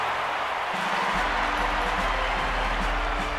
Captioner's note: crowd cheers